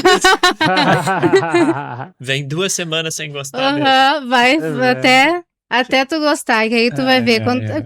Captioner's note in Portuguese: risadas